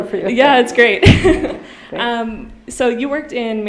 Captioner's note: laughing